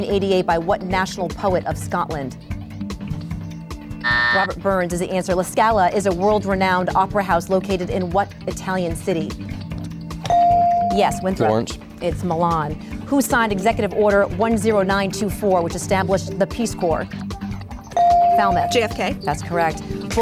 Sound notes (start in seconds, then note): 4.0 buzz; 10.3 ding; 17.9 ding